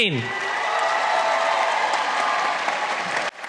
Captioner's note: applause